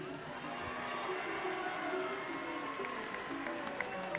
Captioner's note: audience cheers